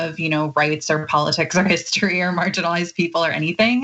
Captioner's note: laugh